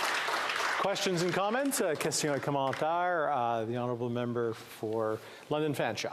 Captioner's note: applause